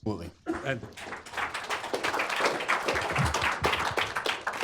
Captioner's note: applause